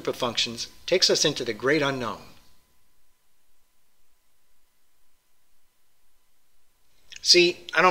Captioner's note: pause